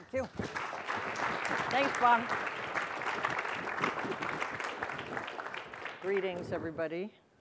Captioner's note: applause